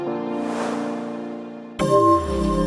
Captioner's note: graphics whooshing; gentle upbeat music